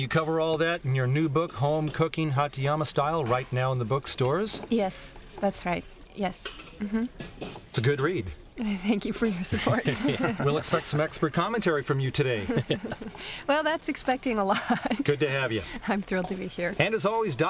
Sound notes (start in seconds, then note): 9.5 chuckling